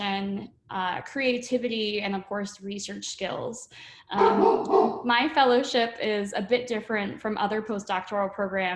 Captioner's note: dog Barking